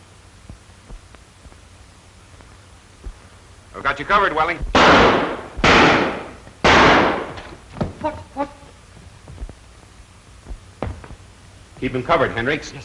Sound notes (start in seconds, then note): 6.6 gunshots